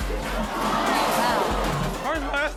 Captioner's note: audience oohs; fridge crashes